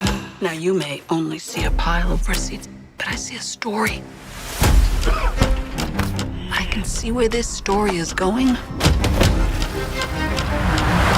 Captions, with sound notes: (dramatic music) - Now you may only see a pile of receipts, but I see a story. (man coughs) I can see where this story is going,